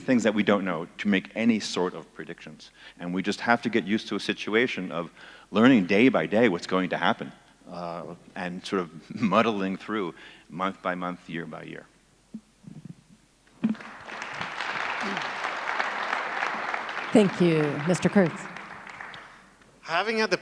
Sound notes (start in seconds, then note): 13.6 audience applauds